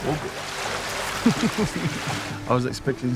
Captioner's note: waves crashing; laughs